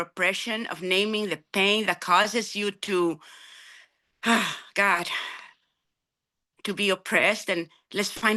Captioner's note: sighs